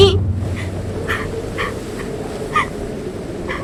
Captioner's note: wind intensifies